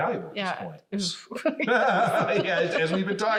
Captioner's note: laugh